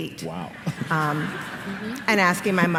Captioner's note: laughter